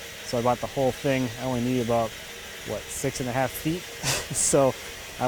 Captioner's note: laughing